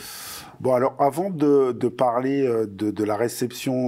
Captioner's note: non-english speech